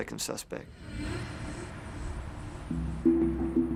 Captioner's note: crickets chirring; dramatic music playing